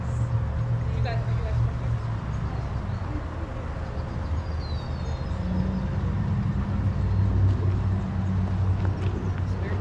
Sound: birds chirping

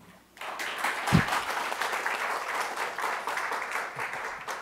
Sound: audience clapping

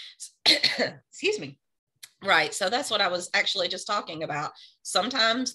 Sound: coughs

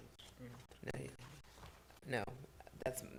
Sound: indistinct conversation

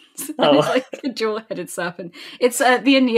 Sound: laughing

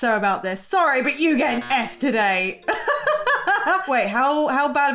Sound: laughs

